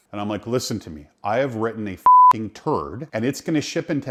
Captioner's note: beep